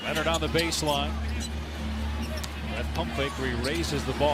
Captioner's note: cheers and applause